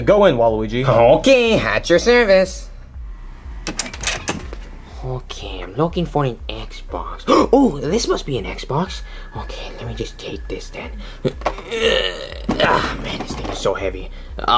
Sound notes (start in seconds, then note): 3.6 door clicks; 11.6 grunts